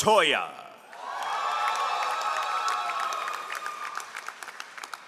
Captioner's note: all applauding